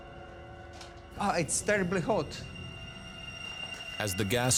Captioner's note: gasps